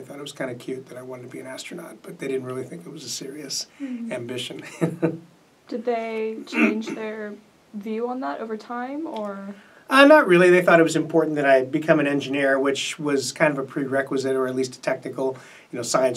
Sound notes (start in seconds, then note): 4.5 laughs; 6.5 clears throat